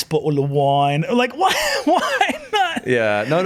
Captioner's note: laughing